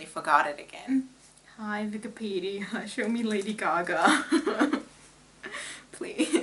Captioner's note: laughs